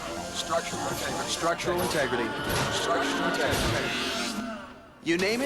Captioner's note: echo